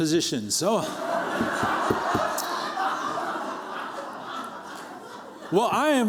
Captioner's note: laughter